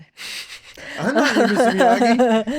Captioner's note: laughing